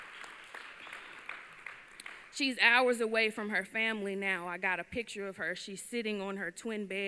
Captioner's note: applause